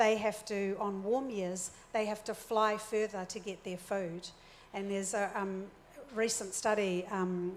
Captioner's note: none